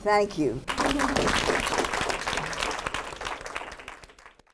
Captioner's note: applause